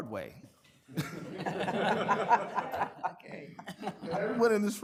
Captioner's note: people laughing